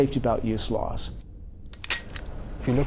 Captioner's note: click